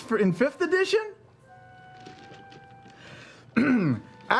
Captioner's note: silence